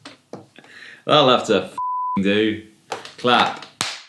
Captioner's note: beep